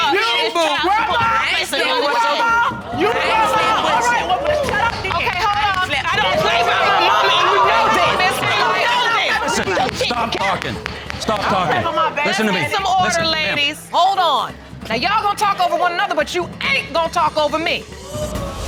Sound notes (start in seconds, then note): 0.3 audience exclaiming; 5.9 indistinct shouting